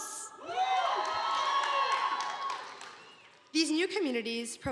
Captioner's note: audience applauding